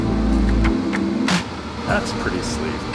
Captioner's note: musical clap; tapping menu